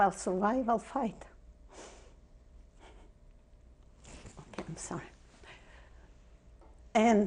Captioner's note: pauses for 3 seconds